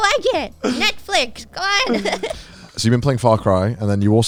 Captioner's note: laughs